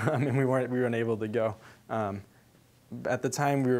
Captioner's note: chuckling